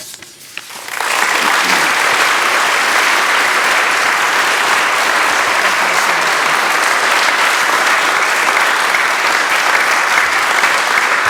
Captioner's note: applause